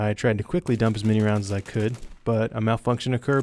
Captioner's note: gunshots firing